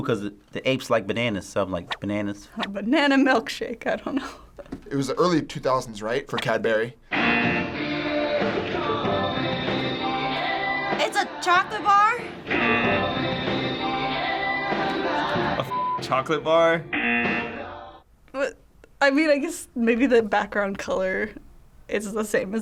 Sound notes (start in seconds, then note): 3.6 chuckles; 7.1 buzzer; 12.5 buzzer; 16.9 buzzer